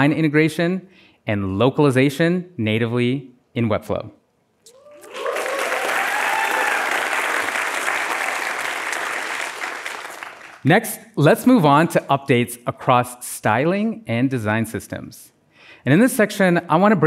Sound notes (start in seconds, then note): 9.5 applause